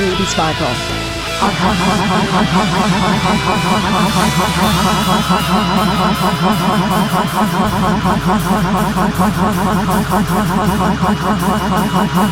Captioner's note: laughs